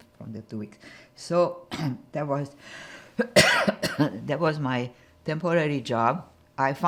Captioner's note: coughing